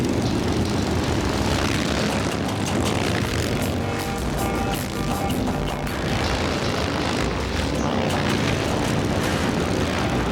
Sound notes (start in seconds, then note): 0.0 motorbikes rumbling; 0.5 dramatic music continues